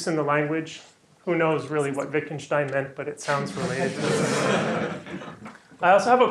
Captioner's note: laughter